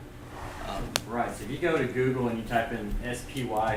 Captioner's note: voiceover